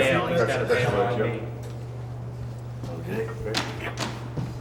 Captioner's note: group chattering